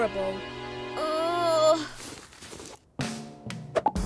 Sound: Esme groans

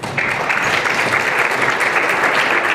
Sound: applause

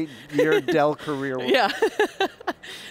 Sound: laughs

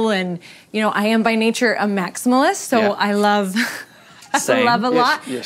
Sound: laughs

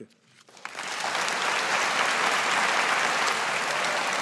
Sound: audience applauding

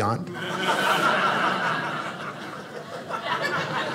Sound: audience laughing

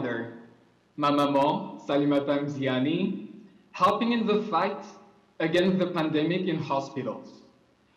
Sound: french

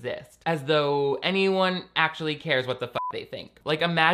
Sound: beep

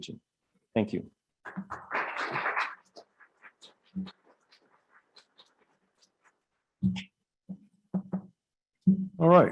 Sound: applause

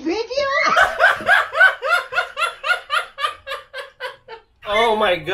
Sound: laughing

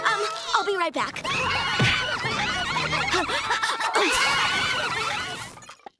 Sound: clamoring

